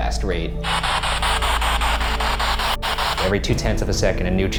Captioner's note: rapid bursts of static